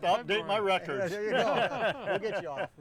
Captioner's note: group laughing